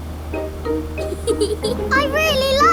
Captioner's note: george chuckling